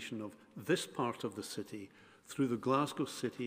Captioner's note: none